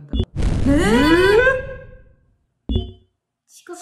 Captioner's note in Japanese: 物音